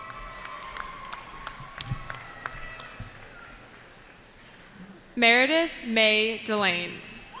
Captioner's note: cheering